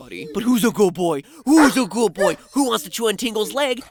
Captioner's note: baby-talk; Link barks